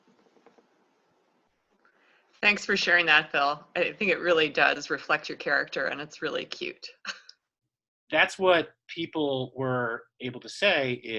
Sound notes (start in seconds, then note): 7.1 chuckling